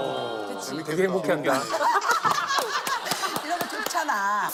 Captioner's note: laughter